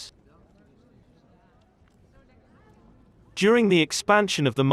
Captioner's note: people chattering